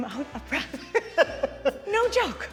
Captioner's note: laughing